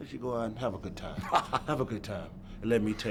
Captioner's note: Hogan laughs